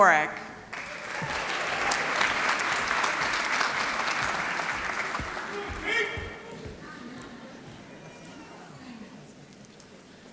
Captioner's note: applause